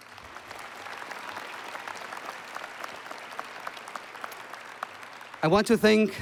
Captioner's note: applause